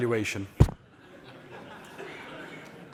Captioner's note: laughter